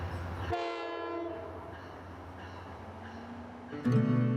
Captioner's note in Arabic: صوت بوق القطار